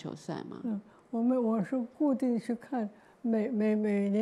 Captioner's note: Mandarin